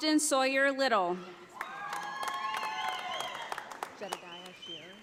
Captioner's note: audience applauding